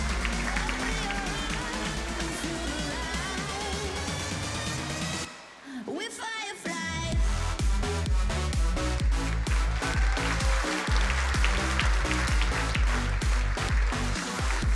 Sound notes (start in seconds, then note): 7.3 energizing electronic music; 9.0 crowd applauding